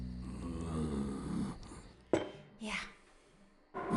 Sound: growls

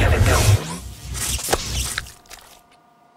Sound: electrocuting sound

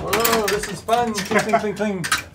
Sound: metallic clanking

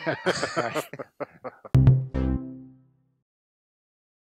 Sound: laughing

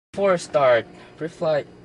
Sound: engine

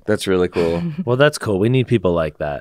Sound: chuckles

